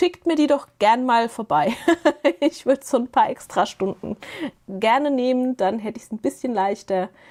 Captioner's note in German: gelächter